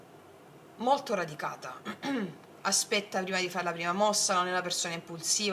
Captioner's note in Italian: schiarire la voce